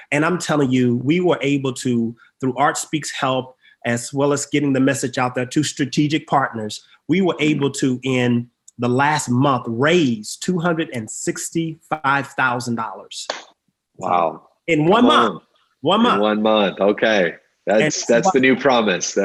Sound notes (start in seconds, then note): 13.3 claps